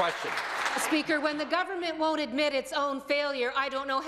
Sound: some Applause

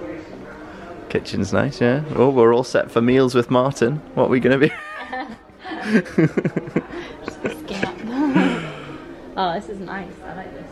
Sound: laughs

